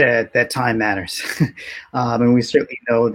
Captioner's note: laughs